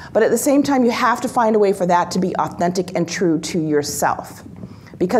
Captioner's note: none